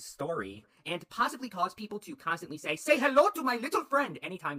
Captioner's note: putting on a voice